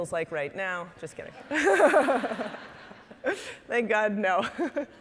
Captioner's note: all laughing